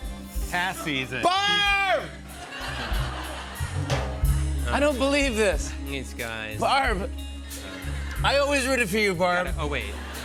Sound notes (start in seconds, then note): 2.2 laughter